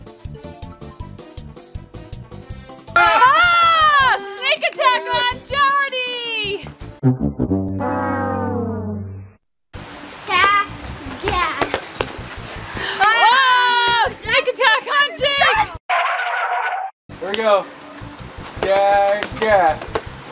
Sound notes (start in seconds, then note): 0.3 upbeat instrumental music; 3.0 everyone yelling; 7.7 sad trumpets; 15.9 car brakes screeching